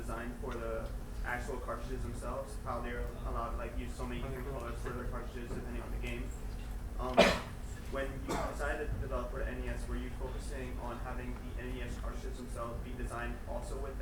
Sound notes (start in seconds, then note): 7.1 coughing